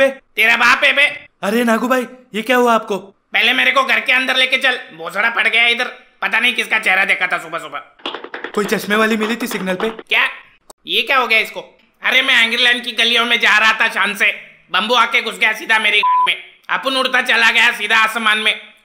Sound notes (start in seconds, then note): 8.0 walking sound